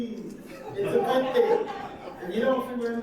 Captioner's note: audience laughing